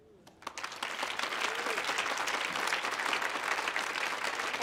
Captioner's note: audience applauding